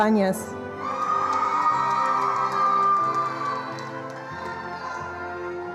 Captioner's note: attendees applauding